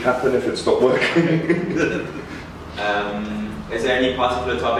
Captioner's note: laughing